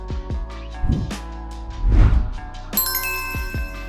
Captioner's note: screen whooshes; logo dings